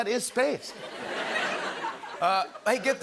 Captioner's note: laughter